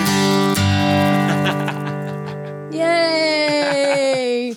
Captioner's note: laughing